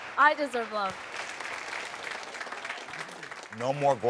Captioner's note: audience applauding